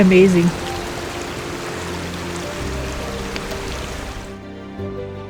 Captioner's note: sound of creek